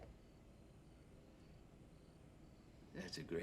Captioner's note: crickets chirping